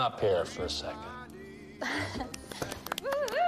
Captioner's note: Ashley chuckles